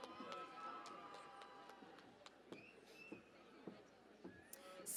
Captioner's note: cheering and Applause